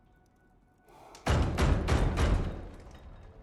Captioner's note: loud knocking